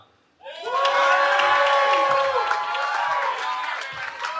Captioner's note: cheering